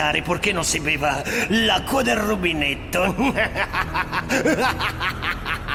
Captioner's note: laughs